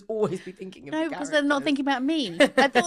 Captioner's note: laughing